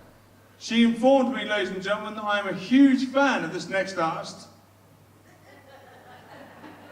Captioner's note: audience chuckles